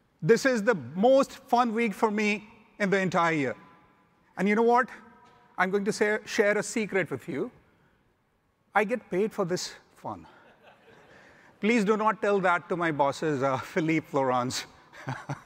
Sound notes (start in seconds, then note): 10.4 audience laughing